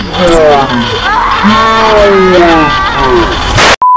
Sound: slowed Down Deep Voice; sudden, repeated Static; slowed Down Deep Voice; Static

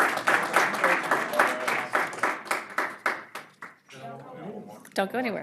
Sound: applause

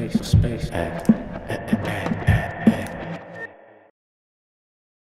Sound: vocalizing

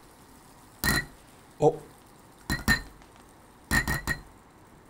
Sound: taps on egg

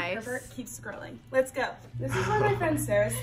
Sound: chuckles

